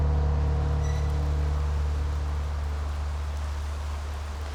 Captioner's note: rain falling